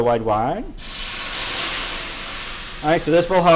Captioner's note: sizzling